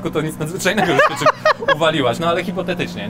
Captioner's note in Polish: śmiech